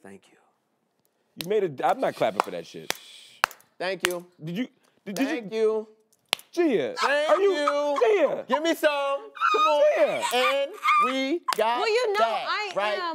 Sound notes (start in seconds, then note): 6.9 laughing